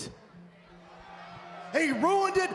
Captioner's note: crowd booing